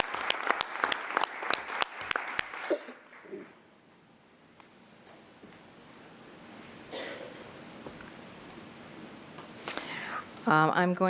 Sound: applause

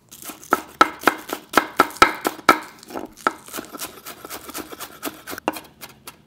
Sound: chopping

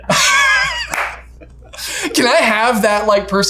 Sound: laughs

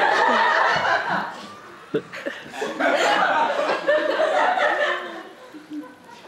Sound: audience laughter

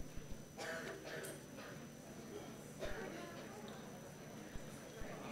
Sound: crowd chattering; coughing in the background; crowd chattering

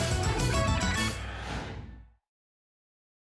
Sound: whoosh

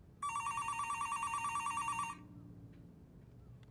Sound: phone rings

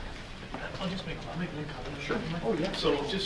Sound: faintly speaking

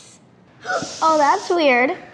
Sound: gasps

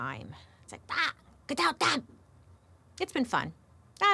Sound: speaks in foreign language

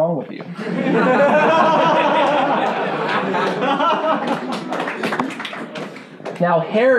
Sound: laughing and clapping

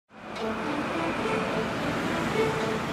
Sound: street sounds

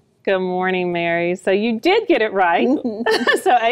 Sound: chuckles

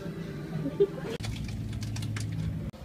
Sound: wind sound; train noises

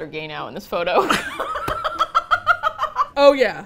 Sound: both laugh

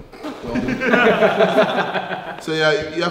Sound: laughing

